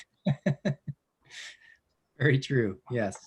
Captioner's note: laughing